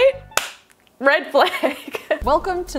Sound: claps; laughs

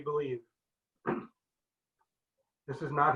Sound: clears throat

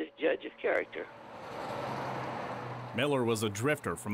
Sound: cars driving

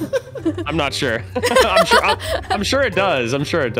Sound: laughing

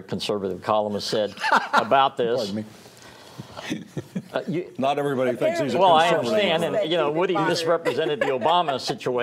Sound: laughter

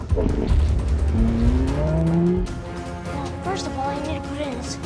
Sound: stegosaurus roars

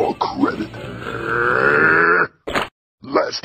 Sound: Lobo growls

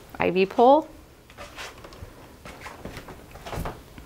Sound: walking

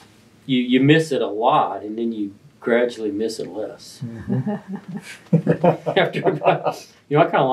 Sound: laughter

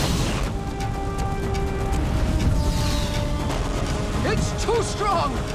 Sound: none

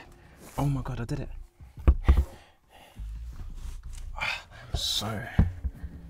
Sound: breathing heavily

